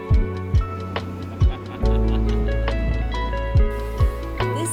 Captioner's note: laughing